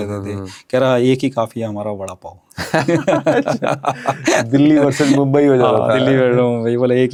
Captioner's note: laughs